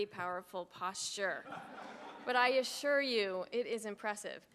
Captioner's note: laugh